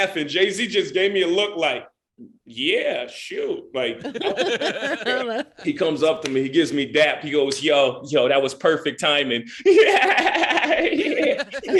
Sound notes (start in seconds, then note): 3.8 laughing; 9.6 Jay laughing